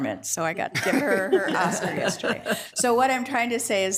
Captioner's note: attendees laughing